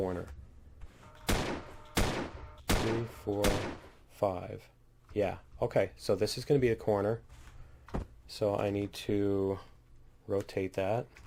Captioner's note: turret firing